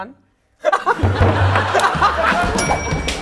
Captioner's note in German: Gelächter